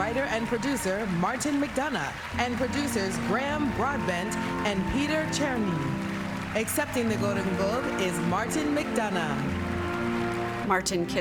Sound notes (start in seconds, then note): 4.2 applause